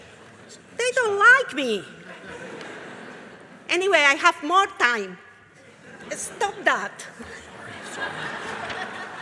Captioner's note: crowd laughs